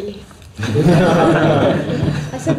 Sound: laughter

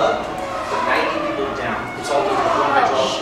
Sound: squeaky noises; elevator making squeaky noises

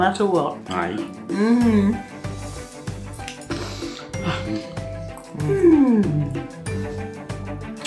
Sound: contented mumblin n sighin

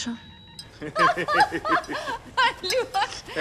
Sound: laugh

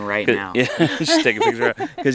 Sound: laughing

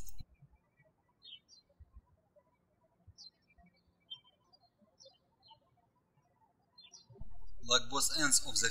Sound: birds chirping

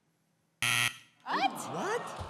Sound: buzzer

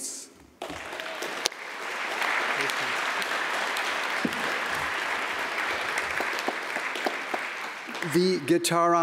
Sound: applause

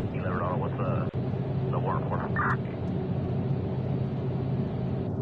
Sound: parking SFX

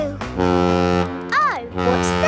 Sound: horn bellowing

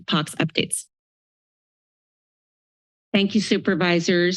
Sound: silence

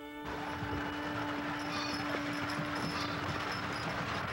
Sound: wagons rumbling

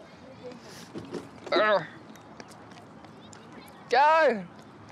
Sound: grunts

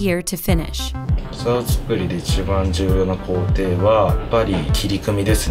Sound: speaking in foreign language

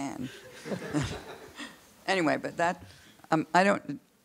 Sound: audience laughs

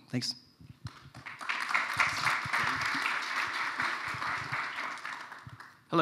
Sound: applause

